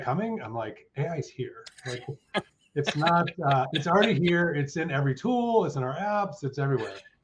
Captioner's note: chuckles